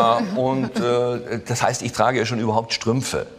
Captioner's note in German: Lachen